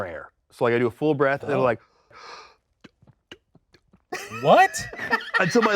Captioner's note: inhales